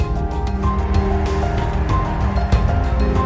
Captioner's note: applause